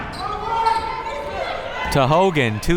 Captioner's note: crowd members shouting